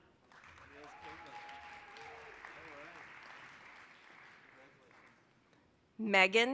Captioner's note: applause